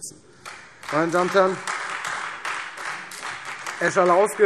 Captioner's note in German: Beifall Freie Demokraten